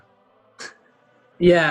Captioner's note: laughs